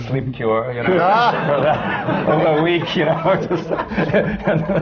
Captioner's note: laughter